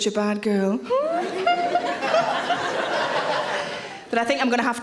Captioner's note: giggling; audience laughing